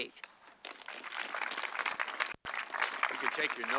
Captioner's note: audience clapping